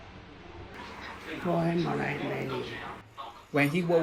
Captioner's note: local dialect, translated